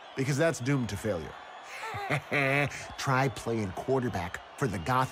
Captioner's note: laughs